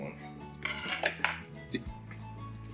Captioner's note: crunching